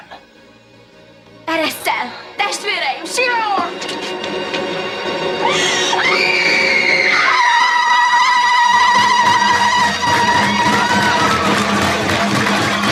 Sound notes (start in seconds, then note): 5.4 screaming; 8.5 ululating